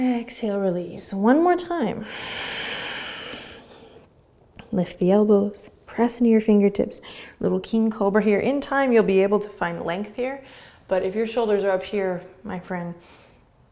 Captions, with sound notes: Exhale, release. One more time. (exhaling) Lift the elbows. Press into your fingertips. Little King Cobra here. In time you'll be able to find length here. But if your shoulders are up here, my friend,